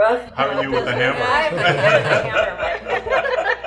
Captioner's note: group laughing